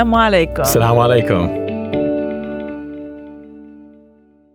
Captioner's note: speaks a foreign language; bright music; speaks a foreign language